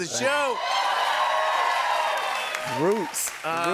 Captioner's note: cheers and applause